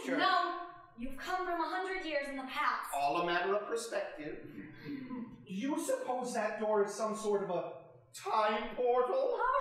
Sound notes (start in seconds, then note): 4.5 audience chuckling